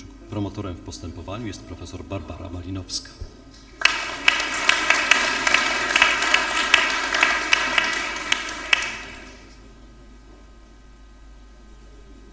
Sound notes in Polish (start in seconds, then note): 3.8 oklaski